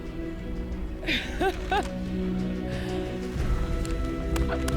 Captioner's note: laughs; emotional music